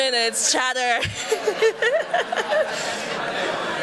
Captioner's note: laughs